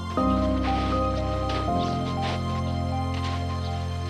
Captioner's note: feet shuffling